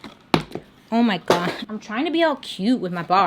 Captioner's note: shave butter thuds